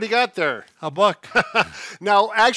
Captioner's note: laughs